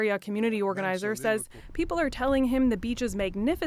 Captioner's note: speaking French